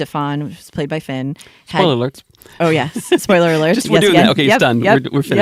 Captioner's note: laughs